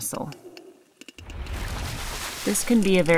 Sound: splash noise

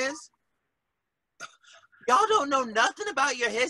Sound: chuckles

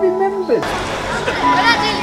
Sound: scattered talking and laughing

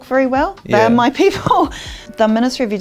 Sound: laughs

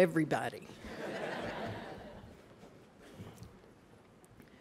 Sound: laughter

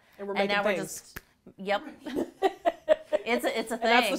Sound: laughing

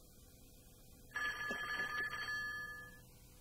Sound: phone rings

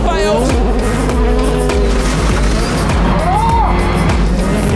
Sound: cars revving

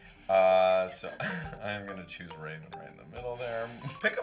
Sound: laughs

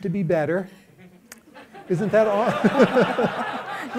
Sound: laughter

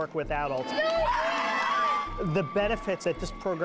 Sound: cheering

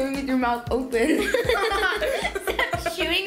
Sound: giggles

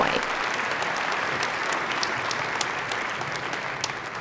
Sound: audience clapping

